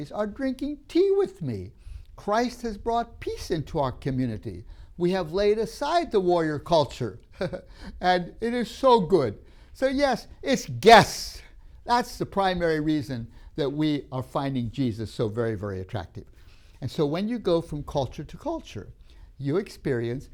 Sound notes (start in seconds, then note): 7.4 laughs